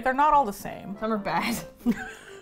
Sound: both laugh

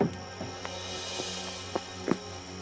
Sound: fire crackling; insects chirping

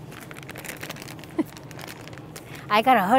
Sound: laughs

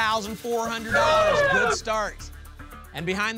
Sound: cheering

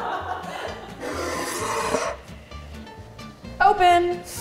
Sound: laughing; plate scraping

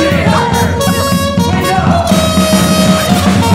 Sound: laughing

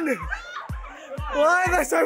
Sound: girls screaming

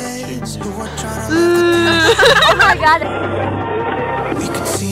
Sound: groans and laughs

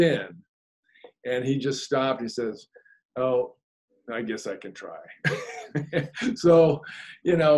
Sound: laughs

